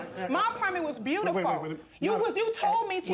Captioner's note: stuttering